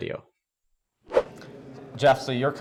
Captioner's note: transition whooshing